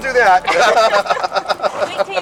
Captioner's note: laughter